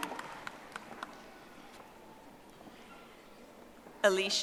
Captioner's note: audience applauding